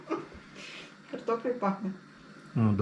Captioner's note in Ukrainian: сміх